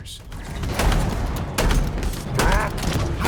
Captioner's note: gunfire